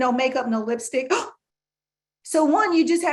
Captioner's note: gasping